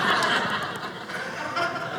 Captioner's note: audience laughing